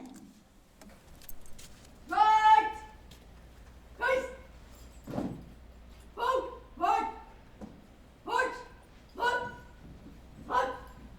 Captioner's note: shouted commands